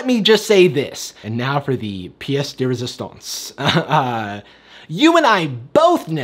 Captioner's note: laughs